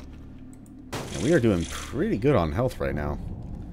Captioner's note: smash